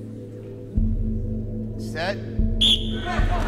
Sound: blows whistle; crowd cheering

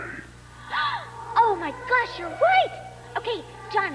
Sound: gasp

